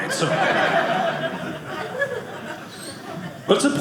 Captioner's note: audience laughing